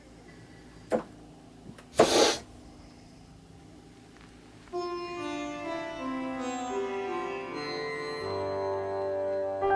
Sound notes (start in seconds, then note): 1.9 sniffing; 4.8 relaxing piano music